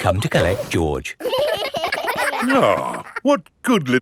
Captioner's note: giggling